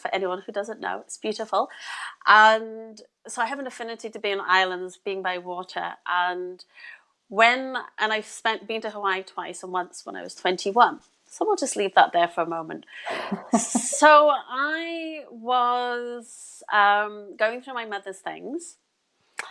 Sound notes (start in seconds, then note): 13.0 laughs